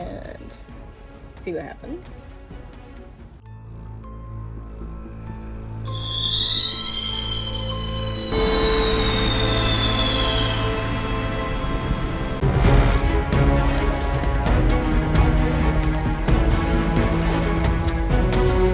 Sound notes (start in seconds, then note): 3.9 intro music; 5.9 scream; 12.4 piratey music